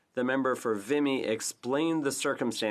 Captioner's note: speaking French